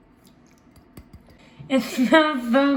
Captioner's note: pouring; tapping